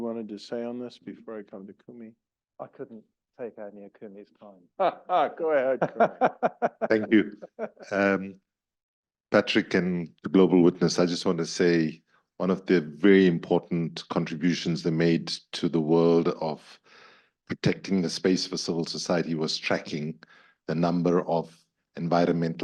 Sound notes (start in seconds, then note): 4.8 laugh